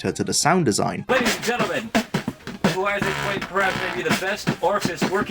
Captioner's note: beat boxing